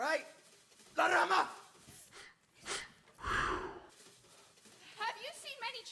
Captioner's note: speaking Spanish